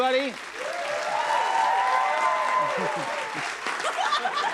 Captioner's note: cheers and applause